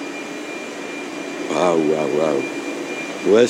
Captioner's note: workshop noise